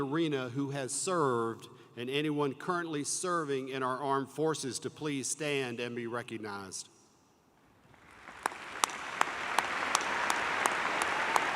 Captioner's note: applause